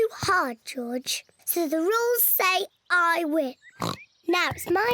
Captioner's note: oinks